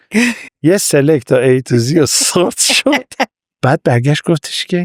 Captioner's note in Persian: خنده